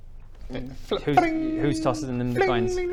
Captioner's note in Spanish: b-ring!